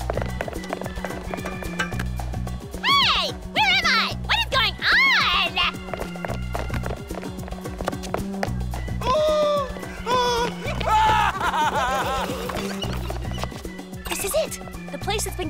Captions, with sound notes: Hey! Where am I? What is going on? [PANICKED SCREAMING] [MANIACAL LAUGHTER] This is it. The place that's been getting the rare luminescent seaweed shipments.